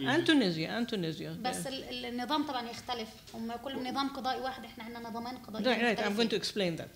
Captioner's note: speaking arabic